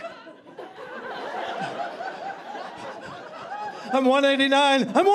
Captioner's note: audience laughing